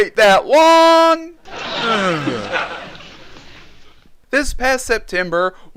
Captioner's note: groans